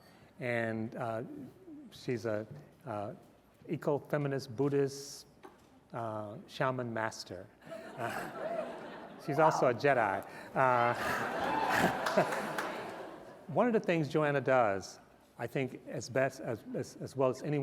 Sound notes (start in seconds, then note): 10.6 laughter